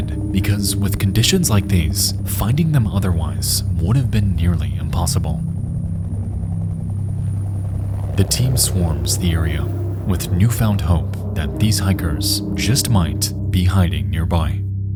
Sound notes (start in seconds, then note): 5.9 foreboding music; 5.9 helicopters chopping